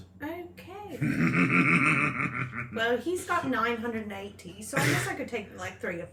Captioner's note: laughs